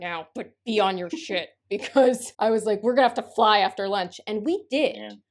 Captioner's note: through gritted teeth